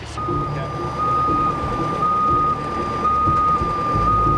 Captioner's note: truck beeping